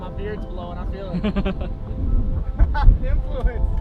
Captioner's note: laughing